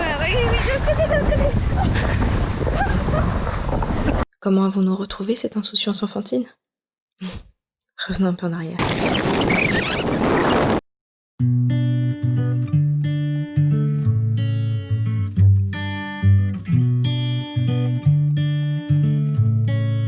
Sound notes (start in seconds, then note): 8.8 rewind